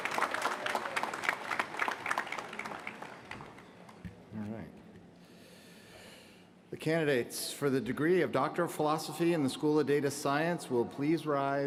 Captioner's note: applause